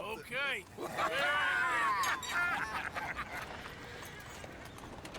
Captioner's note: laughs